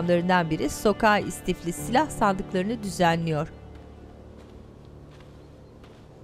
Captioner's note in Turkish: Ayak sesi